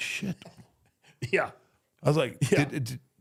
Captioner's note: laughs